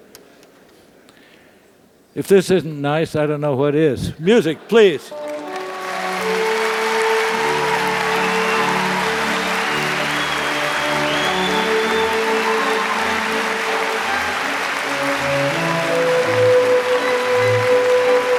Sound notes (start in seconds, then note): 6.4 applause